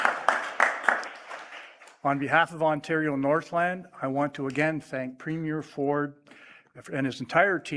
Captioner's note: applause